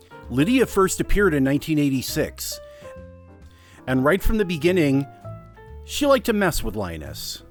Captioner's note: none